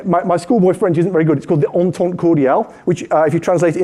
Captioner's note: speaking french